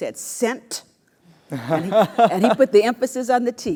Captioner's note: laugh